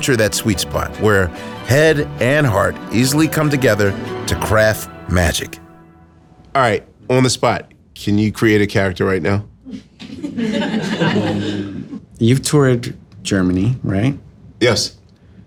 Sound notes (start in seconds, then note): 10.1 audience laughing